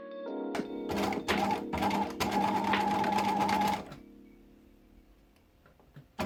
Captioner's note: sewing machine whirring